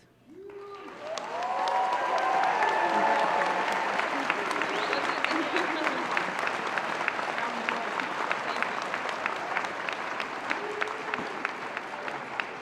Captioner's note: applause